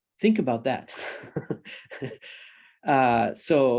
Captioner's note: laughs